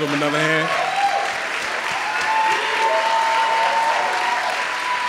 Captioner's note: crowd applauds